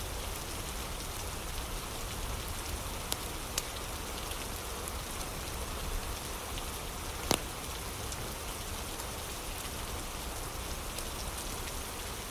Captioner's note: fire crackling; fire crackling